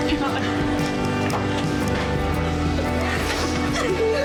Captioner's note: girls crying